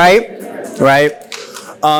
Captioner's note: laughs